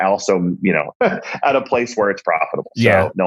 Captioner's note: laughs